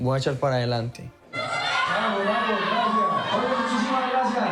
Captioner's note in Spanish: chicas aclaman